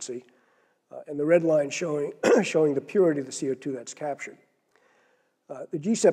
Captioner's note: cough